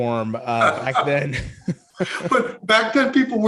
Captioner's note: both laughing